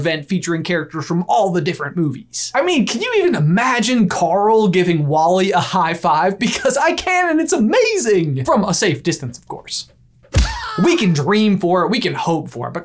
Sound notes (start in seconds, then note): 10.2 screaming; 10.3 hand clap